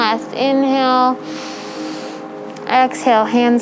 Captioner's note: inhaling